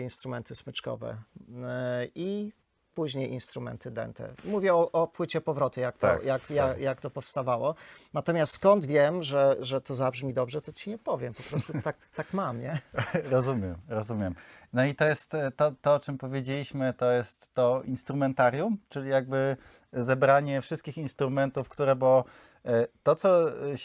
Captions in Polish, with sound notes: instrumenty smyczkowe i później instrumenty dente. Mówię o płycie powroty, jak to jak jak to powstawało. Natomiast skąd wiem, że że to zabrzmi dobrze, to ci nie powiem. Po prostu [śmiech] tak, tak mam, nie rozumiem, rozumiem. No i to jest to to, o czym powiedzieliśmy, to jest to instrumentarium, czyli jakby zebranie wszystkich instrumentów, które, bo to co